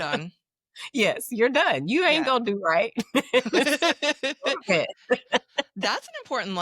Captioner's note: laughing